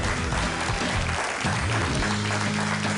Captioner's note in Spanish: aplausos